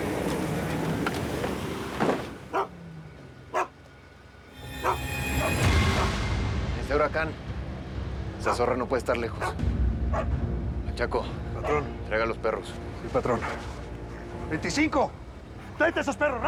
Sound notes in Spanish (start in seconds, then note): 0.5 relinchos; 2.4 ladridos; 11.6 ladridos